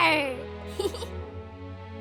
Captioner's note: giggles